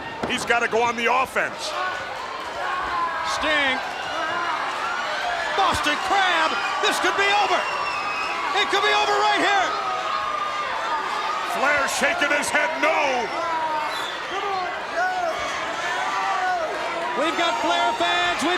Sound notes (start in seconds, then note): 10.6 crowd cheering